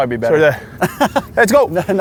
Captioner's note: laughs